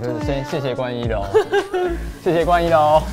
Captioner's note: Laugh